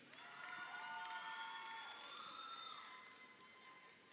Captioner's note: crowd cheering